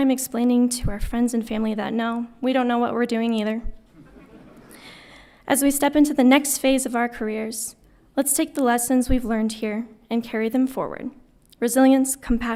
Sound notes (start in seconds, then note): 3.9 audience laughing